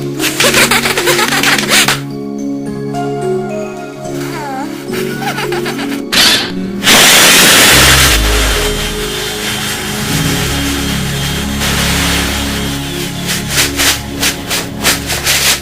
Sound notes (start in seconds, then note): 0.4 giggling; 4.1 sighs and giggles with love